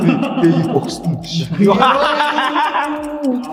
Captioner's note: everyone laughs